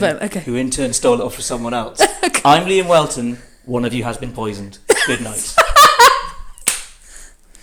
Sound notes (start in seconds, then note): 4.9 laughs